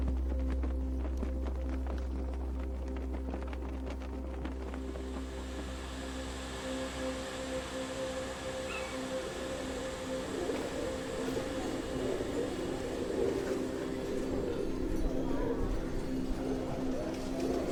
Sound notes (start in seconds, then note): 0.0 flags flapping; 0.3 gentle music; 4.9 steam hissing; 8.6 bird squawking; 10.4 birds cooing